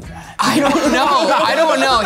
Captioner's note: laughing